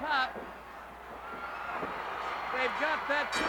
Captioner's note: crowd cheering; crowd yelling